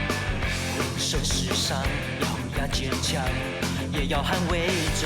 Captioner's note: none